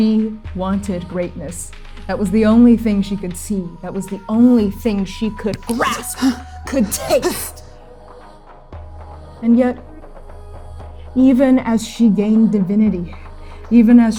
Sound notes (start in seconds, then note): 5.5 gasping; 8.2 exclaiming